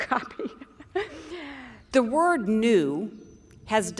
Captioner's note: laughter